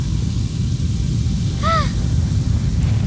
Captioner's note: gasping